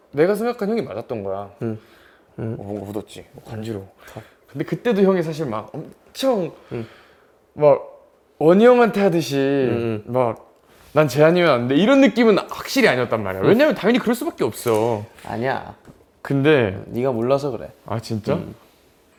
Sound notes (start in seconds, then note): 2.5 Scratch